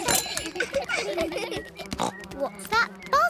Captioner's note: all laugh; buzzing